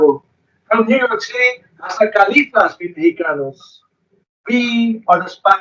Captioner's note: speaks foreign language; speaks foreign language